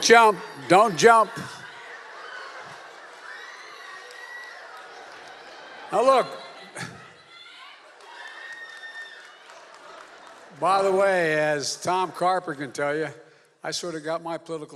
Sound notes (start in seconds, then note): 2.6 applause